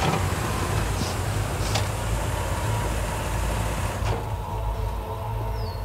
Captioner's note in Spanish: Sonido al abrir y cerrar la puerta